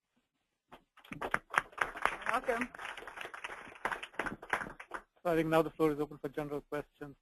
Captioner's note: applause